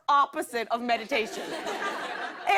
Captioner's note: laughter